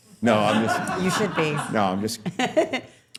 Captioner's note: all laughing